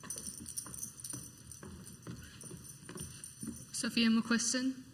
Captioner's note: high heeled footsteps walking onto the stage